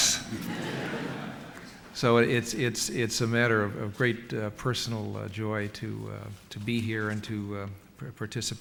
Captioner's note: laughter